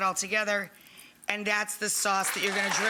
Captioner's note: audience clapping